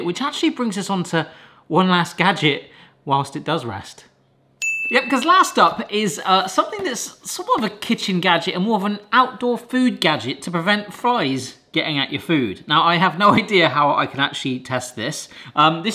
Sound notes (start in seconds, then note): 4.6 audio tings